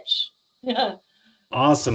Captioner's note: laughing